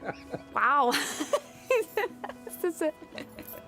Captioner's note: laughs